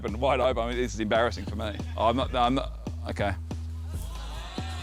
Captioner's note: stammers